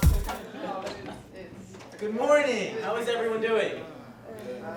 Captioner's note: sound of students talking amongst themselves